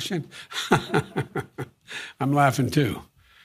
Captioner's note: Biden chuckles